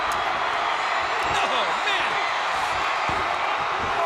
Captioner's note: applause